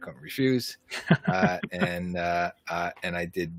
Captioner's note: laughs